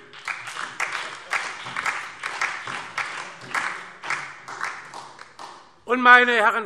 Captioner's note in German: Beifall DIE LINKE und SPD